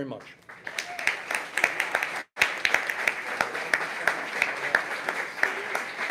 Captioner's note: applause